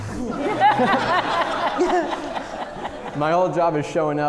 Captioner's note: audience laughing